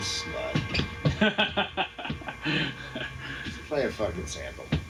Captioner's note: laughing